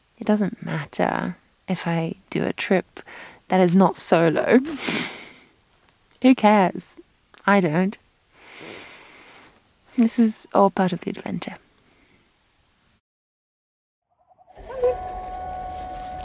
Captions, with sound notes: It doesn't matter if I do a trip that is not solo. (chuckles) Who cares? I don't. (inhaling) This is all part of the adventure. Come, Vilk.